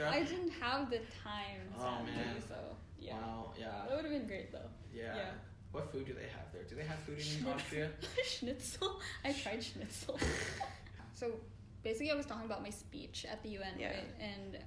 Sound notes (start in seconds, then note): 8.0 giggle; 10.0 sigh